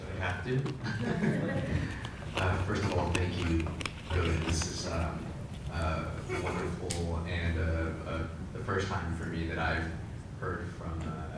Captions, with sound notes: >> Do I have to? >> [LAUGH] >> First of all thank you really, this is wonderful and the first time for me that I've heard from a Chinese Rabbi.